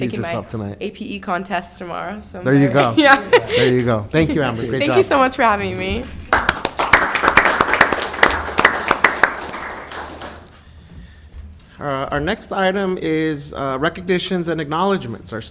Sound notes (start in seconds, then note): 3.4 laughing; 6.2 council members applauding